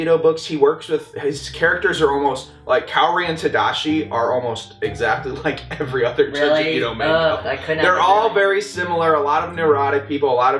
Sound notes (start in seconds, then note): none